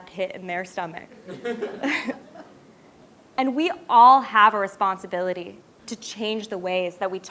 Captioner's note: laugh